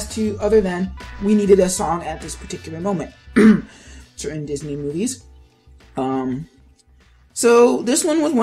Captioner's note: clears throat